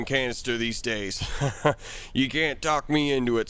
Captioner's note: laugh